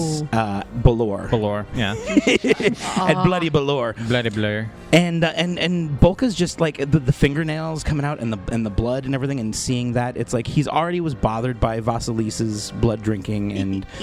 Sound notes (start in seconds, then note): 1.8 laughs, continues; 3.8 deliberately mispronouncing 'Belor'